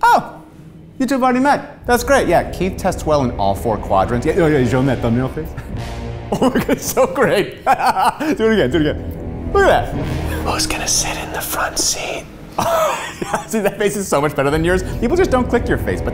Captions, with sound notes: - Oh, you two already met? That's great, yeah. Keith tests well in all four quadrants. Oh yeah, show him that thumbnail face. (laughing) So great. Do it again. Do it again. Look at that. - (whispering) Who's gonna sit in the front seat? - (laughs) See, that face is so much better than yours. People just don't click your face.